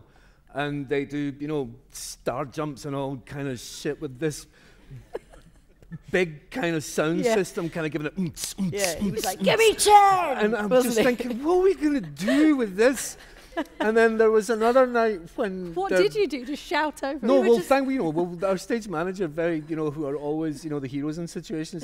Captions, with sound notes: and they do, you know, star jumps and all kind of shit with this...big kind of sound system, kind of giving it.. (IMITATES POUNDING MUSIC) Like, 'Gimme ten!' And I was thinking, 'What are we going to do with this?!' And then there was another night when... What did you do - just shout out...? No, our stage manager - who are always the heroes in situations like that -